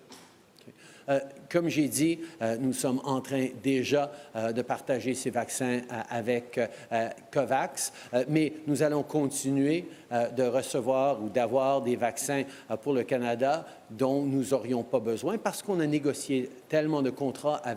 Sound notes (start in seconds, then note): 7.8 speaking french